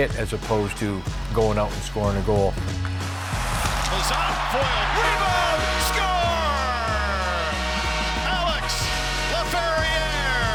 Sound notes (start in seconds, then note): 7.1 crowd cheering